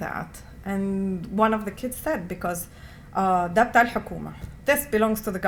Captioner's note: non-english